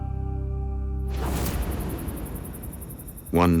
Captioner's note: insects chirping